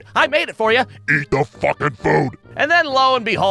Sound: in demonic voice

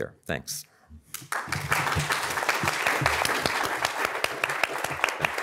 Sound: audience applauds

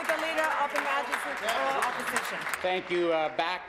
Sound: applause

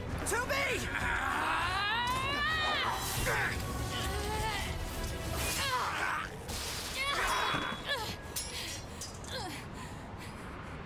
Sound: laughs

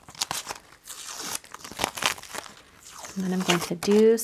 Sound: tape peels

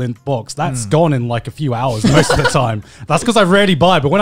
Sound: laughing

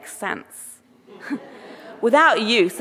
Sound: audience laughing

